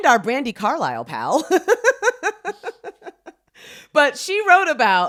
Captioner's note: laughing